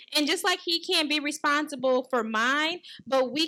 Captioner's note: none